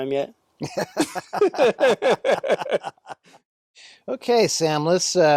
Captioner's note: both laughing